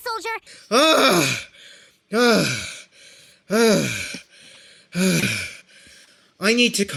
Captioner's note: groans, sighs, pants